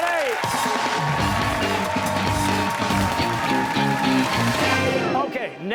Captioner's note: cheers and applause